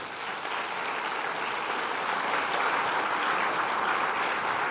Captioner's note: applause